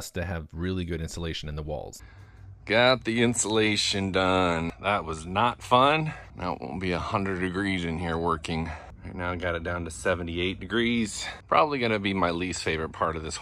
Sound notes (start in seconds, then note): none